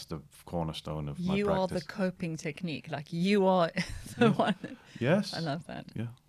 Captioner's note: laughter